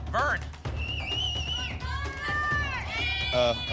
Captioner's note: cheering